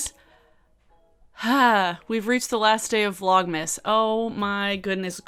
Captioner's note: sighs